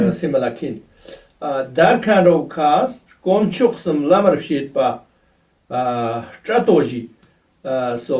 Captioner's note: tibetan